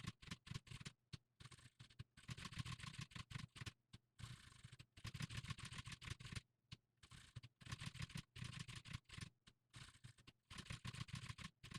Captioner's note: typing sounds